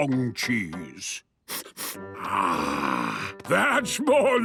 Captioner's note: sniffs